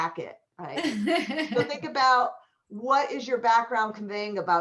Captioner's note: laughter